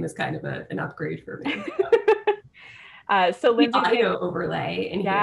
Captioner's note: laughter